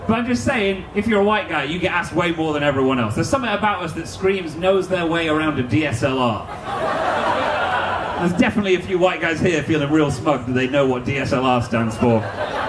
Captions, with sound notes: But I'm just saying, if you're a white guy, you get asked way more than everyone else. There's something about us that screams, "knows their way around a DSLR". (audience laughing) There's definitely a few white guys here feeling real smug that they know what DSLR stands for.